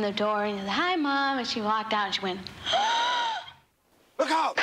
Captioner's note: gasps